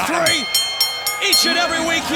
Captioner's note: bell rings